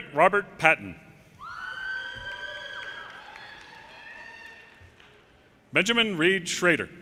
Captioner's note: audience cheers and applause